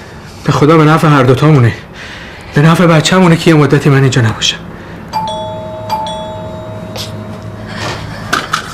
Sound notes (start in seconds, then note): 5.1 doorbell ringing